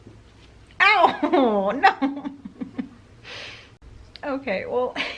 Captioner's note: chuckles